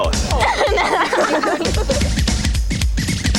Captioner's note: giggling loudly; upbeat music